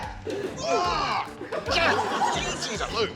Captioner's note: grunts; screams